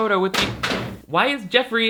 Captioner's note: object clattering